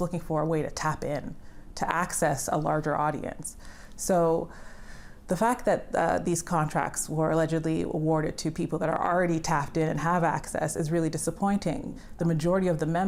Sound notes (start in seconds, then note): none